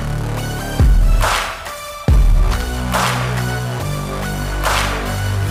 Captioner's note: Tepuk tangan